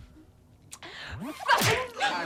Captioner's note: punch